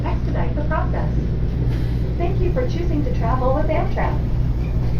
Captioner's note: automated female announcement